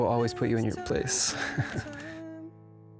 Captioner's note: chuckling